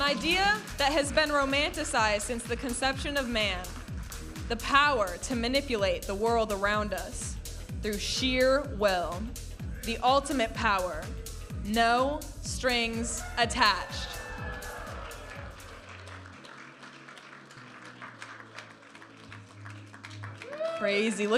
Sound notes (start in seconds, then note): 14.0 audience applauding and cheering; 18.7 vibrant music